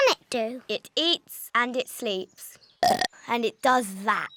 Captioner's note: burps